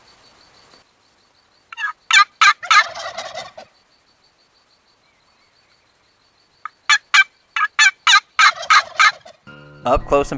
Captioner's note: turkey gobbles